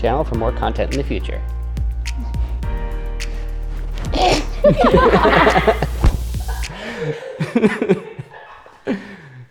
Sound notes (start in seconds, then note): 2.6 upbeat music; 4.2 laughing